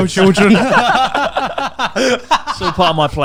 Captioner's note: laughs loudly